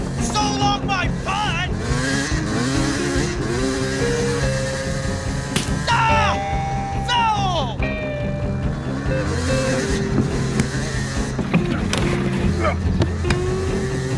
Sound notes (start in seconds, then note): 1.8 gentle music; 1.9 bike whirring; 7.8 bike whirring; 7.8 gentle music